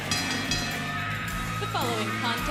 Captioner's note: bell ringing